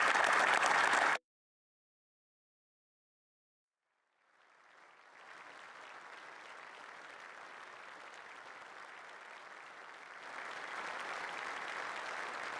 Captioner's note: applause